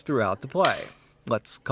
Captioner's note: slate claps